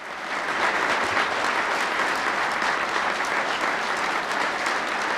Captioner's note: audience applauding